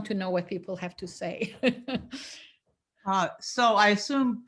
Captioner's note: laughs